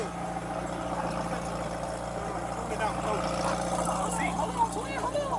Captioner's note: car engine roaring